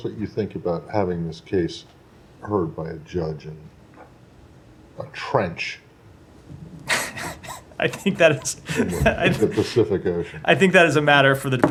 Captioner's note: laughter